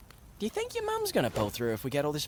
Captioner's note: all with Australian accents